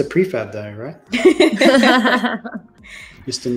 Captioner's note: laughter